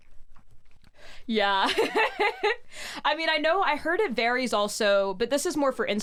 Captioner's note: laughs